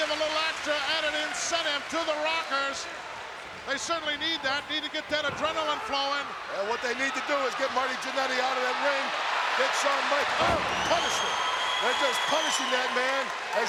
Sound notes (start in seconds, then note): 11.1 audience cheering